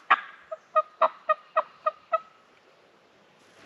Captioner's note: turkey call